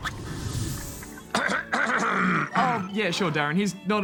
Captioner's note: clears throat